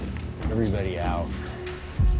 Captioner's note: wood softly cracking